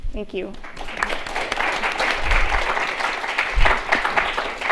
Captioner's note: applause